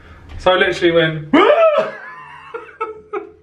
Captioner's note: laughing; gasps